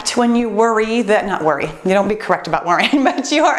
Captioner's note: laughs